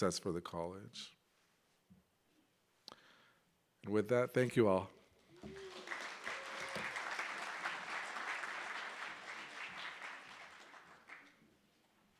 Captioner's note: clapping